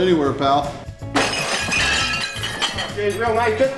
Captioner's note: utensils shatter